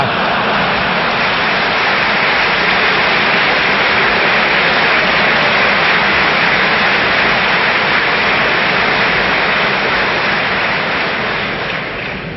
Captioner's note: applause, laughter